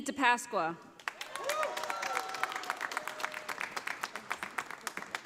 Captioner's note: audience applauding